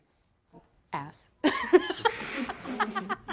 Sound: group laughter

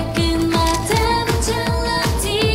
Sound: click

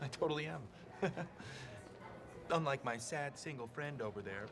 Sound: chuckles

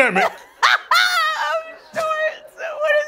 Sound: laughing

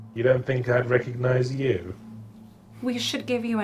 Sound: voiceover

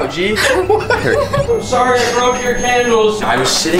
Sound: laughs

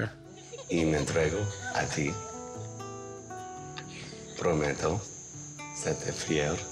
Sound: laughter; speaking in Spanish

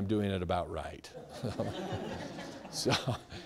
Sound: laughing

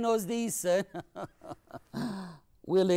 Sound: laughs

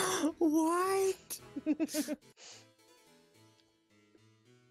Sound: laughs

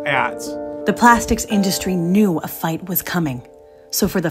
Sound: voiceover

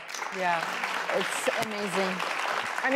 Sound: audience applause

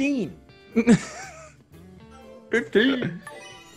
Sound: laugh

